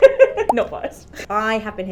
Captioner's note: laughing